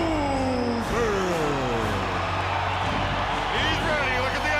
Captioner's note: crowd cheering